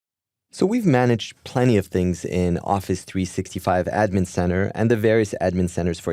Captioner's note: voiceover